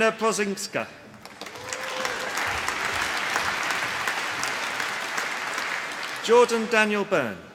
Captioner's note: applause